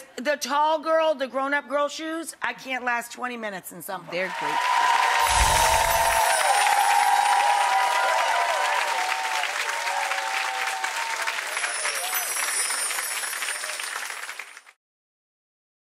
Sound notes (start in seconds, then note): 4.1 applause